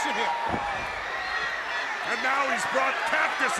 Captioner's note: crowd cheering